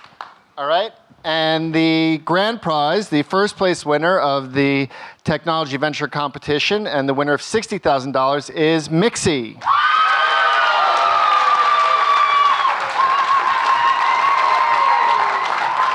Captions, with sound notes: All right and the grand prize. The first place winner of the Technology Venture Competition and the winner of $60,000 is MICSI. (audience cheering and clapping)